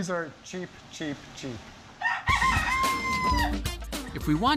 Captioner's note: rooster crowing